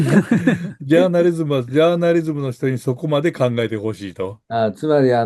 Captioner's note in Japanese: 笑い